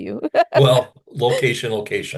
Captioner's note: laughs